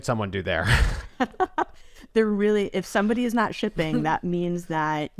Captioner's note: laughs